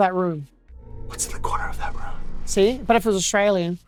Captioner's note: whispers